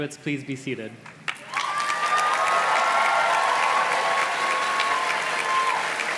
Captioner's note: audience cheers and claps